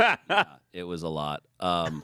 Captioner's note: laughs